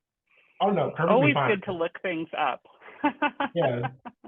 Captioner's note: laughs